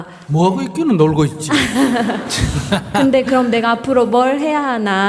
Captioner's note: laughter